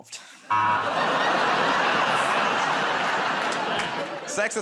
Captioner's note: laughter, buzzer